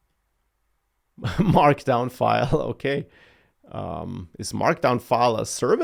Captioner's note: laughs